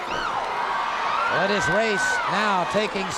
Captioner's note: crowd cheers